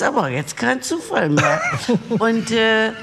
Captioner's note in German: Lachen